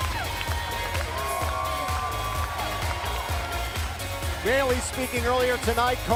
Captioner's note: crowd cheering